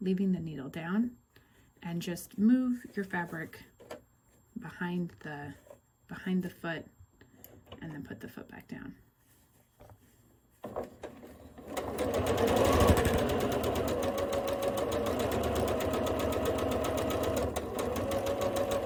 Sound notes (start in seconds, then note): 10.0 sewing